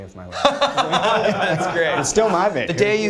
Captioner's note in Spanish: risas